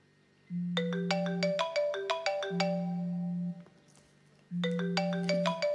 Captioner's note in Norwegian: alarmen ringer